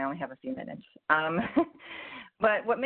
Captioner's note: laughs